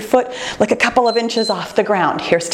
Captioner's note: timer beeps